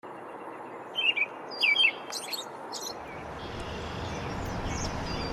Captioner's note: birds chirping